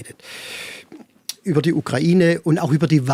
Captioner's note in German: none